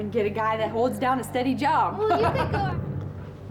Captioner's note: laughing